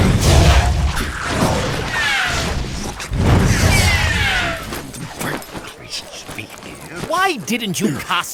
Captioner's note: flying fire missles as quaff grunts